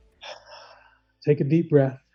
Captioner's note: breathes